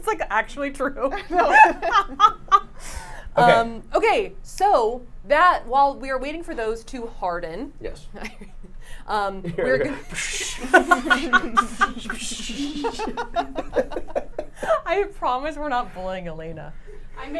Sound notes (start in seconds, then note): 1.4 laughs; 10.4 imitates water whooshing; 12.0 everyone laughing